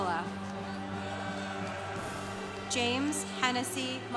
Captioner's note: congregation applauding